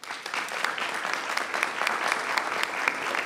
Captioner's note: applause